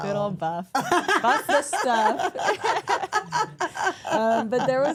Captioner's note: everyone laughs; center Person laughs